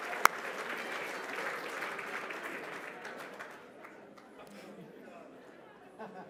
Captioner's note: chatter